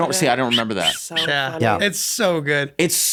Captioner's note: whistles